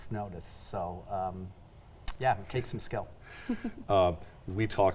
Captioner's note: chuckles